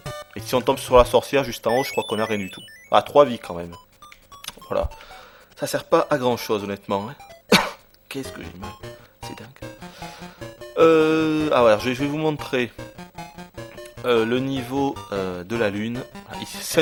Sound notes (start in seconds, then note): 7.5 coughs